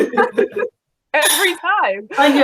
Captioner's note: laughing